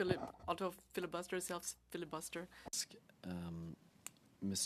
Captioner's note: speaking French